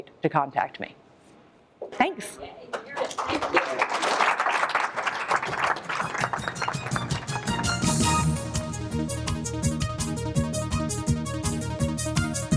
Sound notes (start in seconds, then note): 2.6 applause; 7.5 closing Music